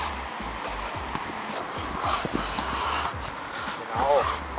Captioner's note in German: Schneidgeräusche